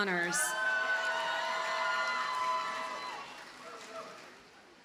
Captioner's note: audience cheers and applauds